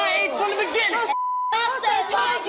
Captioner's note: beep